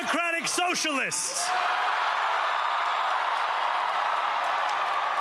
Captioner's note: cheering